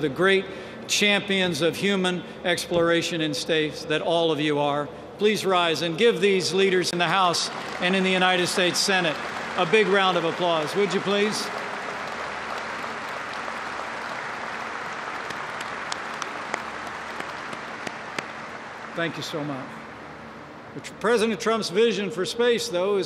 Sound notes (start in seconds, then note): 11.9 applause